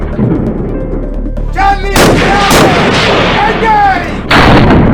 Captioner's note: gunshot; yelling; gunshot